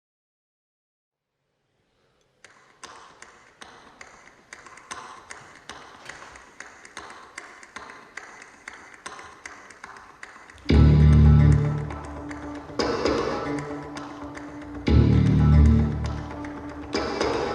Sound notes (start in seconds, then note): 2.7 tapping; 10.4 upbeat music